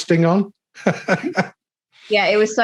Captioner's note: laughing